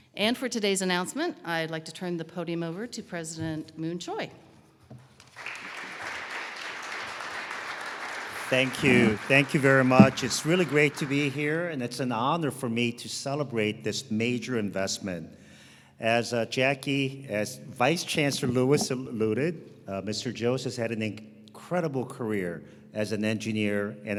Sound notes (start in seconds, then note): 5.3 audience applauding